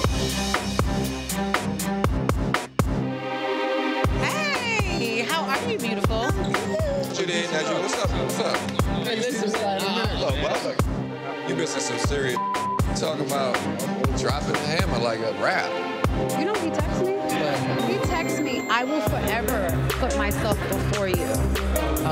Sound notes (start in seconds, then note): 0.2 orchestral music; 9.1 party guests chatting; 12.3 beep